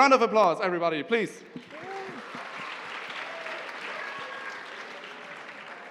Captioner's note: applause